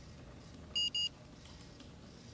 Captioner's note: computer beeps